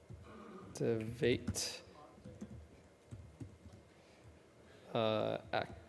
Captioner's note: speaker talks while typing